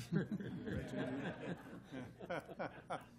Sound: laughter

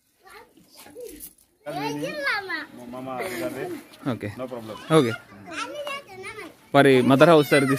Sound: speaking in Foreign language

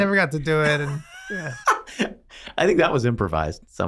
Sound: Glenn laughs

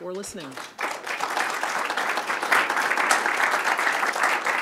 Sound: audience clapping

